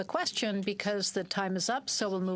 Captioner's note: speaking french